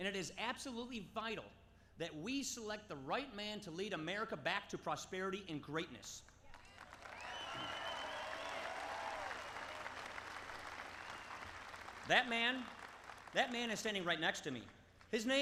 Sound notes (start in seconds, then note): 6.4 applause